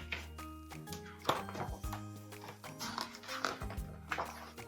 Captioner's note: pages rustling